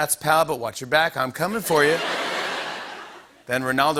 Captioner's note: laughter